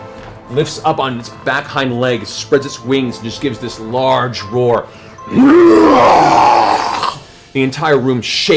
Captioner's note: roars